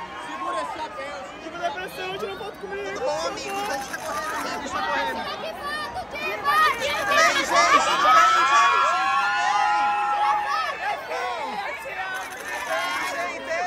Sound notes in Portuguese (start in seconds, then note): 7.0 gritos; 13.4 gritos